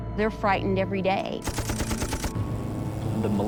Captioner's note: gunfire